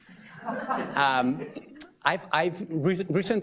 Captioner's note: audience laughs